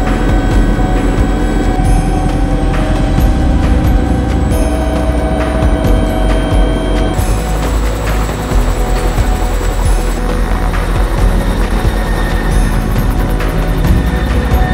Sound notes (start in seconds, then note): 7.2 helicopter whirring